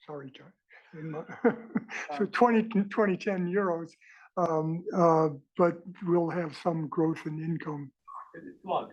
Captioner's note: laugh